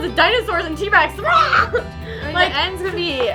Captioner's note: roars